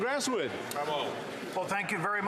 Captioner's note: some Applause